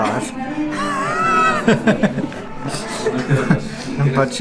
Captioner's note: laughs